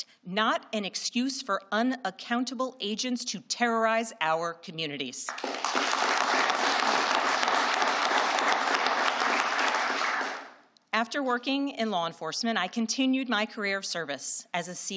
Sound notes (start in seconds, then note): 8.0 applause